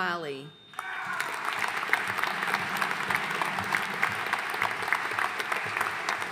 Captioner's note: audience cheering and applauding